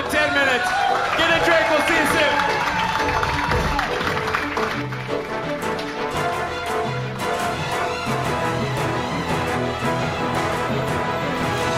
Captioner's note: applause, cheering